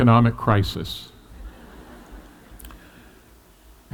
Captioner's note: laughter